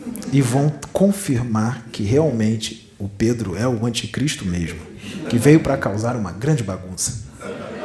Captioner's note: laughs